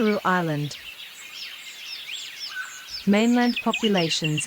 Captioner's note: birds' chirping